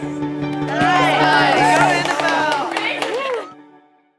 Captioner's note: clapping